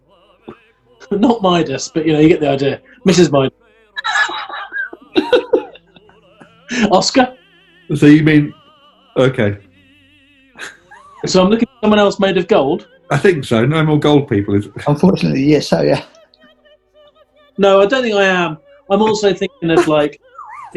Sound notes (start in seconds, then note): 3.9 giggling